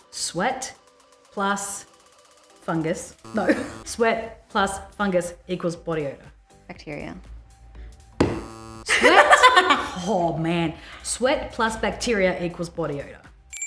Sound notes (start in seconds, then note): 3.3 chuckles; 8.2 buzz; 8.8 laughter